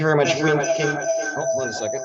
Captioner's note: audio reverb